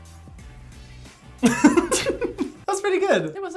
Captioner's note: laughing